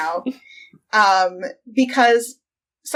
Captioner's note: laughs